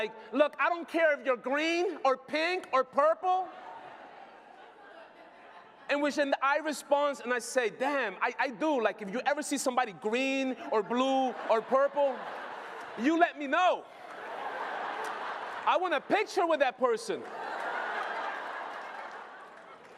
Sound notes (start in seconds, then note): 14.3 applause; 19.0 laughter